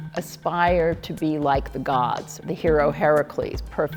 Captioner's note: none